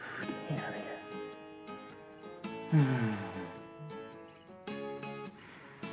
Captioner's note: groans